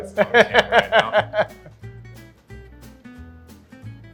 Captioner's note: hearty laughter